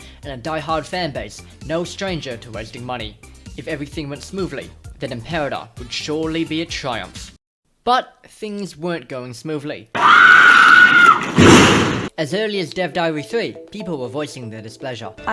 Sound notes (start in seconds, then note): 9.9 screaming; 11.1 smash